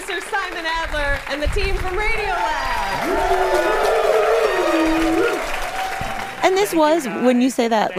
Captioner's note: applause